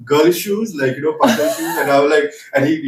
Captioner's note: laughs